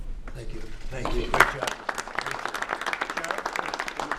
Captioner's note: applause